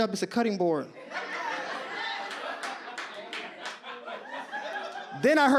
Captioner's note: audience laughs